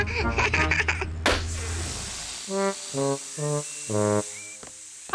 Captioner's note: laughs; tire pops, hisses